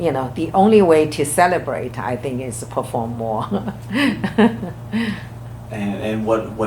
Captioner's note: laughs